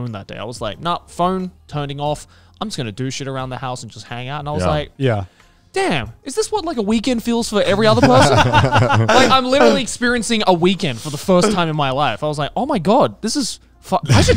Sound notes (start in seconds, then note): 7.8 everyone laughs